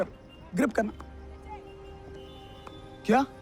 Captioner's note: mouthing